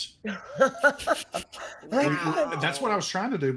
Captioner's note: laughs